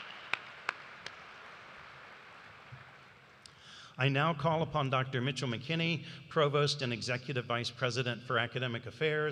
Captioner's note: applause